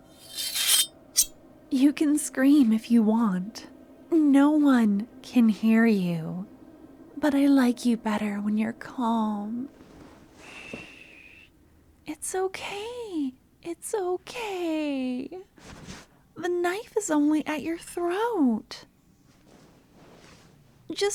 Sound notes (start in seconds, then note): 0.2 knife drawn, body slam noise